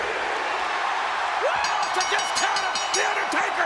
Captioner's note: bell ringing